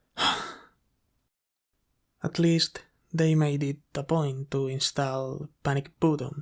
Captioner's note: sigh